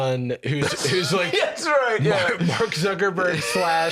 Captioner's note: laughing